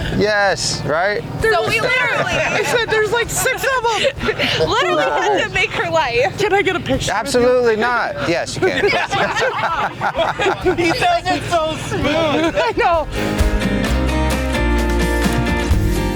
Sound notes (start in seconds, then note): 7.8 laugh; 13.3 upbeat music